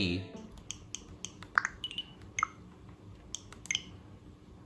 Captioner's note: button sounds